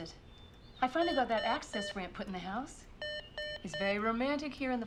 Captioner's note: intercom beeping